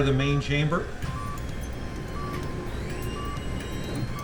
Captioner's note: machine beeping and whirring